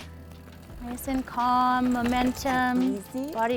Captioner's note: bike zooming